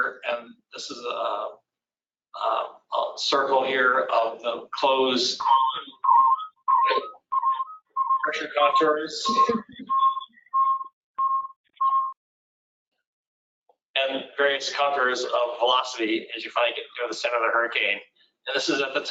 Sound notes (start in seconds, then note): 7.2 beeping stops; 7.2 interrupted by loud beeping